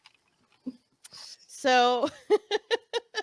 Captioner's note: laughing